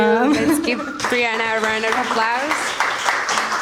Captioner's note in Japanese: 拍手